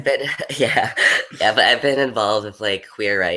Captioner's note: laughs